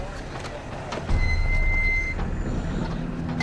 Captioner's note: brakes squeal